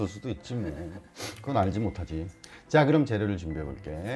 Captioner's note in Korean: 훌쩍